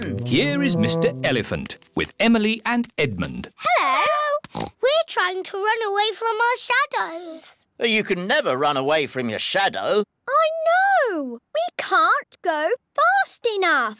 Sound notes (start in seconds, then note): 4.5 oinks